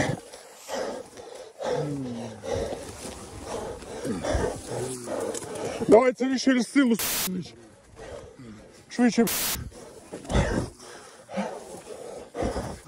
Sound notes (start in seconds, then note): 0.0 sound of heavy breathing; 0.3 sound of walking through the bushes; 9.2 sound of heavy breathing